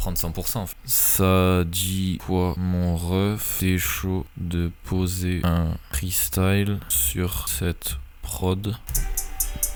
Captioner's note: something stupid in french